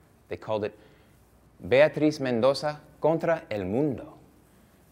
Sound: Spanish

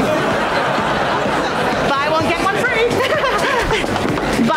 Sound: chuckles

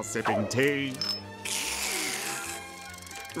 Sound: slurping

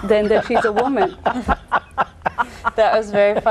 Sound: laugh

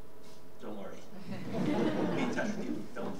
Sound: audience giggling

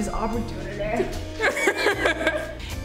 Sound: laughing

